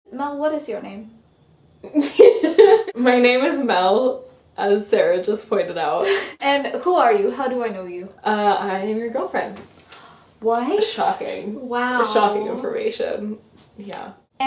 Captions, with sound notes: - Mel, what is your name? (laughter) - My name is Mel, as Sara just pointed out. - And who are you? How do I know you? - I am your girlfriend. - What? - Shocking. - Wow. - Shocking information. Yeah.